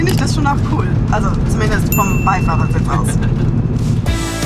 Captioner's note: laughs